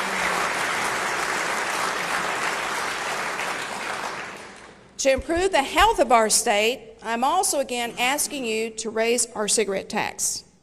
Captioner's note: applause